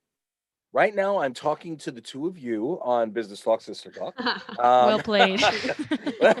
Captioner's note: chuckles